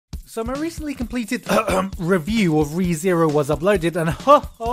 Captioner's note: cough